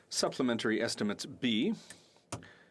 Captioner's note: speaking French